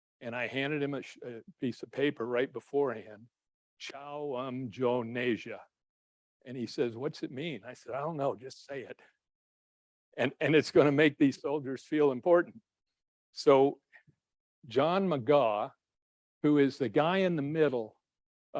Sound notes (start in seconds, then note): 4.0 speaking in foreign language